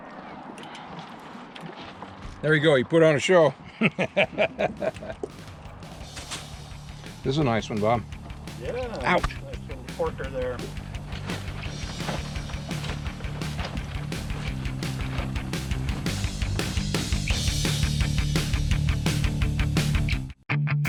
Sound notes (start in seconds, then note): 0.0 fish splashing; 3.6 laughing; 14.3 water lapping